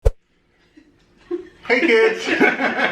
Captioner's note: thump